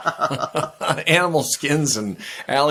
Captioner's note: both laughing